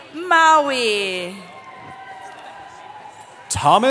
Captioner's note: cheering